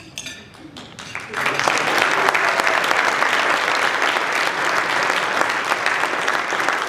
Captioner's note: applause